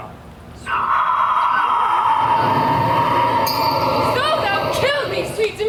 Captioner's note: wind howls ominously